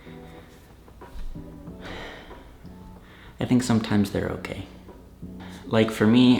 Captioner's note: deep breath